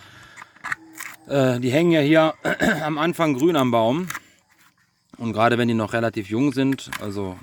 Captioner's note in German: räuspern